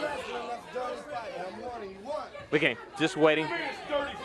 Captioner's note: crowd chatter